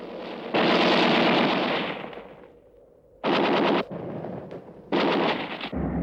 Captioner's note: gunfire